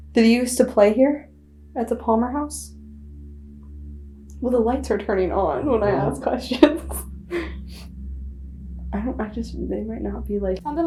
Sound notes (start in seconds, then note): 5.5 laughing